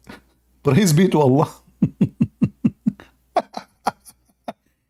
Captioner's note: Ketawa